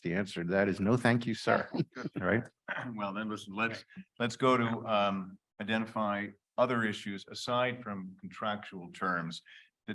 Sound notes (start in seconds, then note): 2.1 panelists chuckle